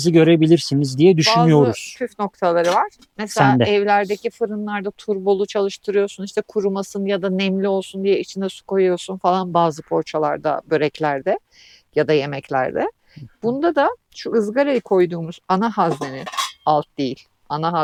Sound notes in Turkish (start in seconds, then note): none